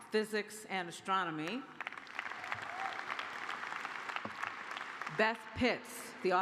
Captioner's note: applause